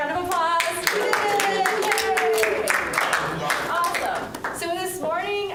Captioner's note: cheering